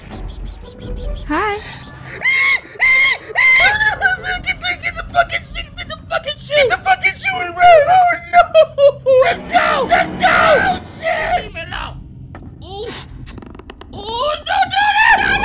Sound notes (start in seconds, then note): 2.2 screams